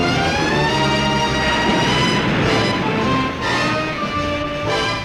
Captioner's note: waves crashing